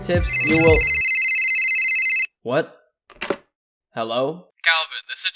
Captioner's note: ring ring